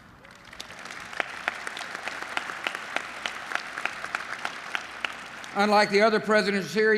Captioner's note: applause